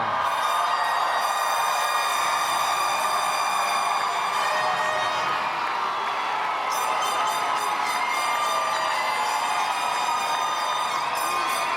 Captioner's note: applause